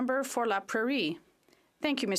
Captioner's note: speaking French